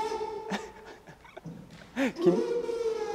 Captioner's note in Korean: ㅎㅎㅎㅎ